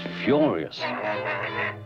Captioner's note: honking